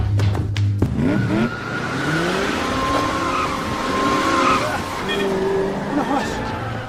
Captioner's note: tire screeching